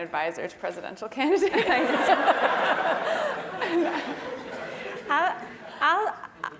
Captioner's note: laugh